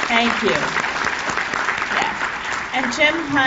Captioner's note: applause